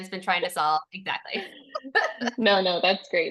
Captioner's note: laughter